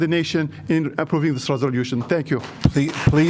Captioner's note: applause